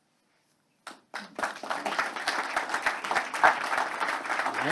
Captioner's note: audience applauds